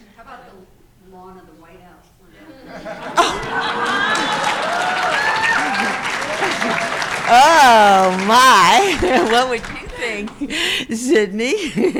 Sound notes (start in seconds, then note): 2.7 crowd cheering